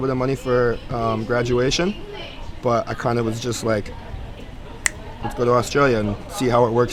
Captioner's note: snaps